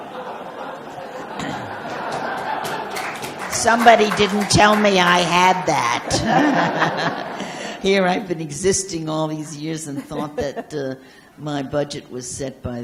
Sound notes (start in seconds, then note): 5.8 laughs